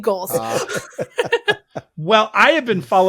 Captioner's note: all laughing